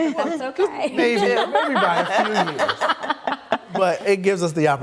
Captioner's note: laughs